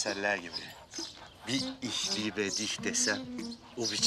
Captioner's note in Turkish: Almanca konuşma